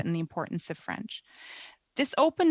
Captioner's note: speaking French